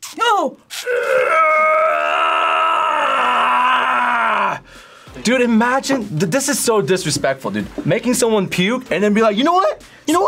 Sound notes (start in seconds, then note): 1.0 grunts